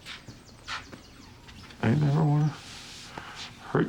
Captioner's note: voice breaking